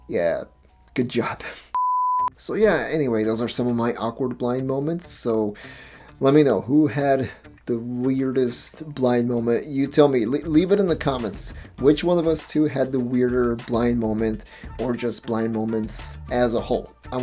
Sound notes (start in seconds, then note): 1.7 beep